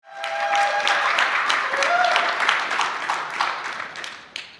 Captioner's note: audience clapping